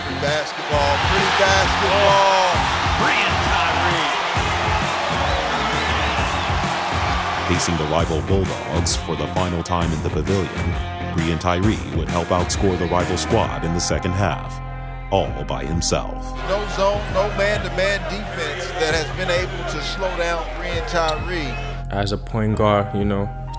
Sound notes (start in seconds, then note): 4.5 cheering